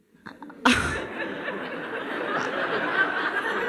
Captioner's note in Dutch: gelach